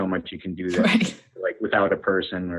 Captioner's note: laughs